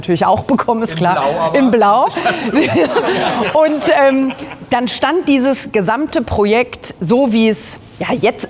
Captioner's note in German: gelächter